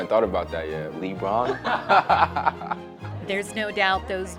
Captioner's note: laughter